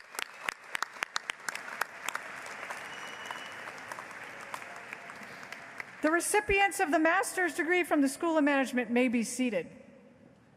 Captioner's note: applause